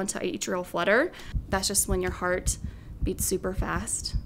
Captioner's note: heart beating